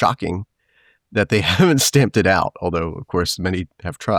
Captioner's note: chuckling